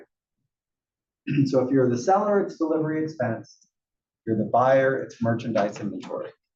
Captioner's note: cough